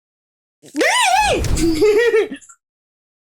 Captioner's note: gremliin squeals